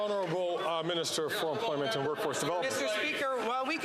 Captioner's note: some Applause